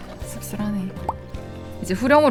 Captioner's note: sip